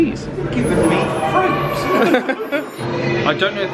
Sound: pair laughs

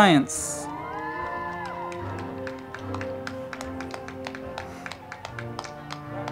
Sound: crowd clapping and cheering; band music

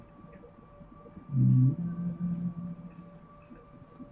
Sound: hums

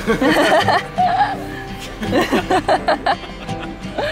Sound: laughs

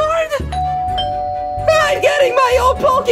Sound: doorbell rings

